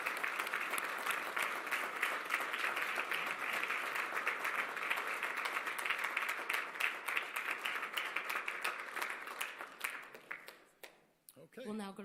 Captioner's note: applause